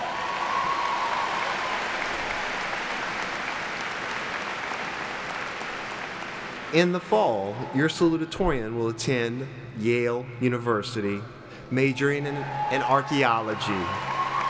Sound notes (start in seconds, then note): 4.5 applauding